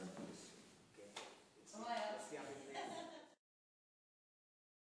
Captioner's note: laughs